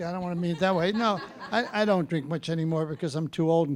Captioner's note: audience laughing